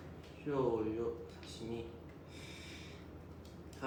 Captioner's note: speaking Japanese